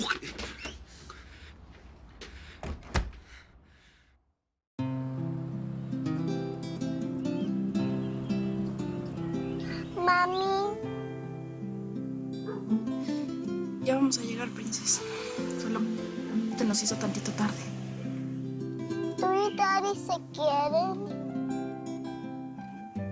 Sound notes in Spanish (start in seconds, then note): 2.6 Sonido al cerrar la puerta